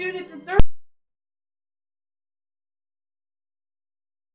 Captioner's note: deep humming tone